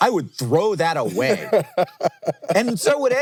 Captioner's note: laughing